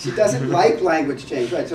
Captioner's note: laugh